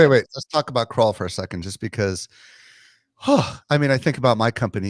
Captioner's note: sighs